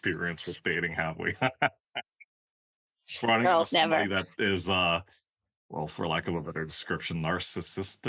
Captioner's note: laugh